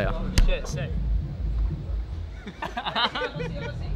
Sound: both laugh

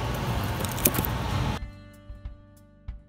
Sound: plastic scraping; soft guitar music

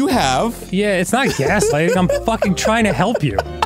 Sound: laughing

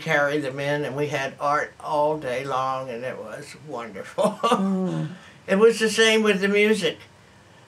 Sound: laughs

